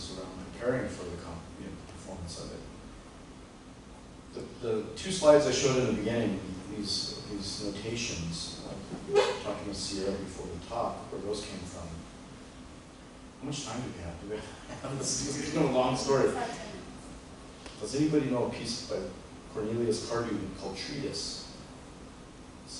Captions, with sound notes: around preparing for the performance of it. The two slides I showed in the beginning, these notations talking with Sierra before the talk where those came from-- how much time do we have? [CHUCKLES] It's been a long story. Does anybody know a piece by Cornelius Cardew called "Treatise?"